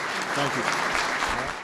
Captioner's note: applause